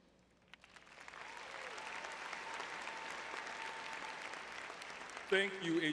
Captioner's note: audience clapping